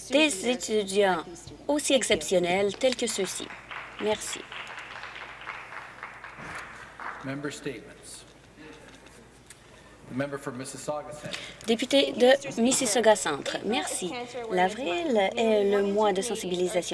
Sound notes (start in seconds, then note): 7.4 applause